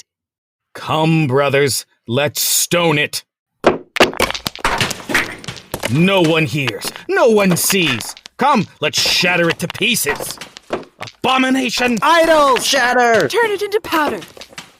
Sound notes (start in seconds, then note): 3.6 sounds of stones being thrown